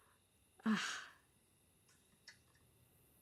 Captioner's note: Jenny sighs